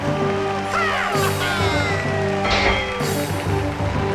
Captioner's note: ਭੀੜ ਤਾੜੀਆਂ ਮਾਰਦੀ ਹੈ